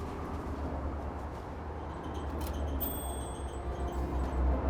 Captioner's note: traffic whooshing